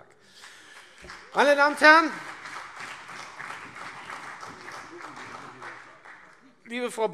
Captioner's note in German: Beifall CDU